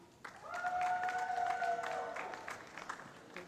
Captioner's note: applause